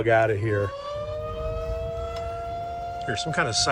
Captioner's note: tornado sirens screeching